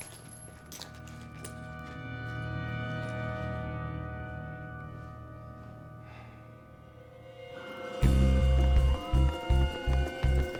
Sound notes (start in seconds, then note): 6.0 exhales; 8.0 sirens wailing in distance